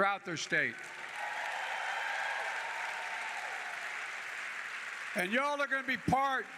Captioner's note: applause